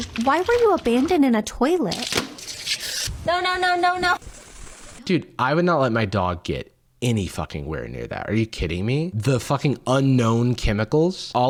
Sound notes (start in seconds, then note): 2.3 scrubbing